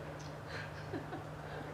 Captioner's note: laughs